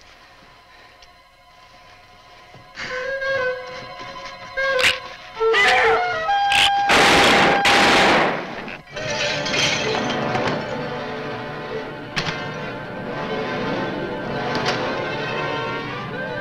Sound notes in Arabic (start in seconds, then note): 0.3 موسيقى أوركسترالية مشوقة; 6.8 إطلاق نار; 8.7 أصوات قعقعة الزجاجات; 8.8 موسيقى أوركسترالية متوترة